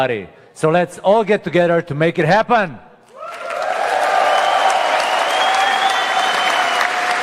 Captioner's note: cheering/Applause